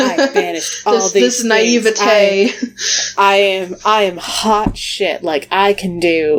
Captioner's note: laughs